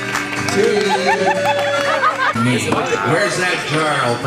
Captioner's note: woman laughing